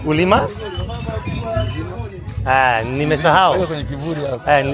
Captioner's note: in Sukuma-local tribe language